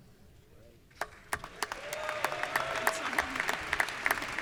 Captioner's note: audience applauds